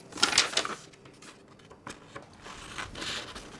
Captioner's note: papers rustling